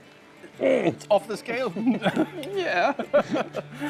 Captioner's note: laughs